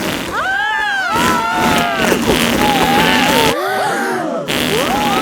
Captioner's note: both screaming; crowd gasps